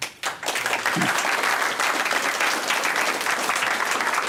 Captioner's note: applause